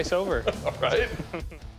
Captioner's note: laughs